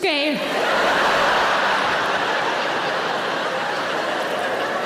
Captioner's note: audience laughing